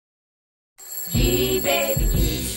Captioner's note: alarm rings